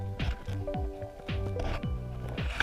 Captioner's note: rocks moving; water flowing